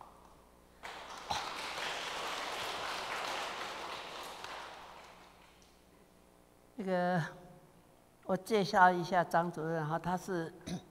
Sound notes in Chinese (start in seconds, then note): 0.8 眾人鼓掌歡迎